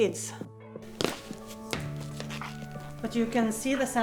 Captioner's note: foot thuds